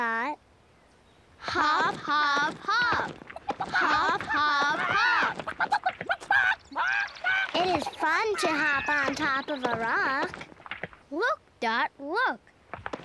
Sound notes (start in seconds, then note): 4.7 clucking excitedly